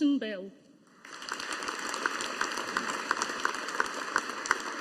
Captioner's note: audience applauding